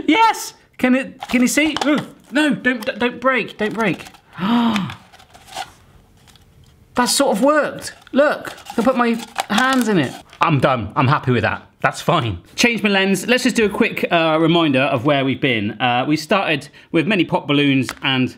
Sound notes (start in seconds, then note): 4.2 gasping